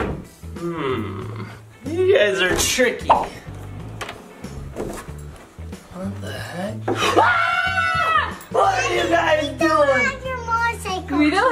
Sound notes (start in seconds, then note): 7.0 screams